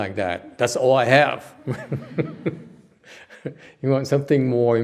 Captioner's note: laugh